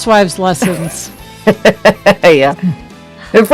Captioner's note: laughs